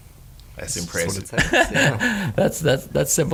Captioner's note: laughing